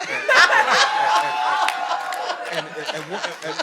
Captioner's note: audience laughing